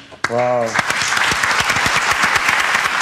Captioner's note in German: Applaus